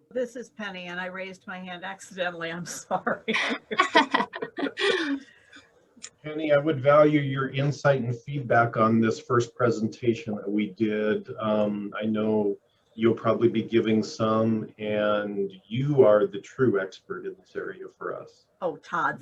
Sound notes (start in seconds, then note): 4.1 laughing